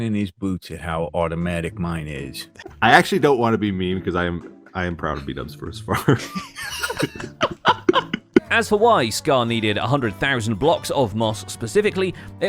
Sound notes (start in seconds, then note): 5.9 laughs